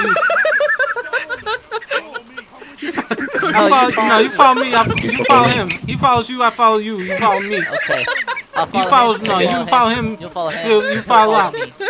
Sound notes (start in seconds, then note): 1.1 laughing; 2.8 through laughter